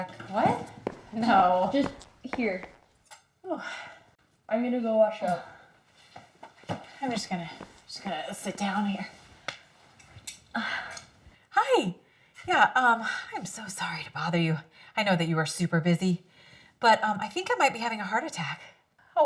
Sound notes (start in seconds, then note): 6.0 feet thumping